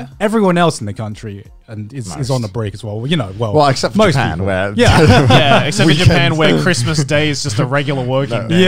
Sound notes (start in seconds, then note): 4.8 laughing